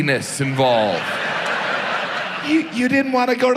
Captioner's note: audience laughs